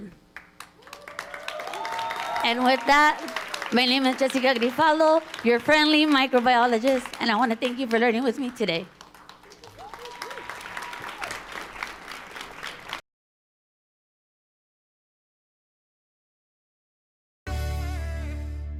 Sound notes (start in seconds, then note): 0.6 audience cheering and applauding